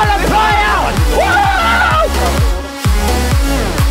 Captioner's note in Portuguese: Gritaria